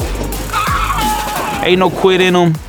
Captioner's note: fan chatters; fan cheers